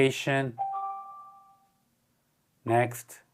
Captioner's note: bell ringing